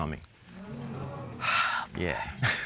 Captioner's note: audience groans